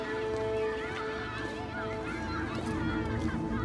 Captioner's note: children clamoring